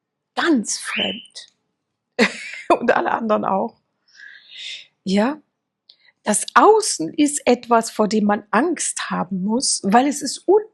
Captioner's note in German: gelächter